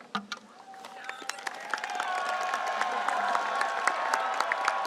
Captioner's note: audience applauds